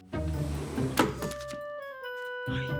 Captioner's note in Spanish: Sonido de la puerta